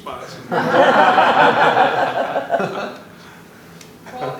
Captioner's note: laughter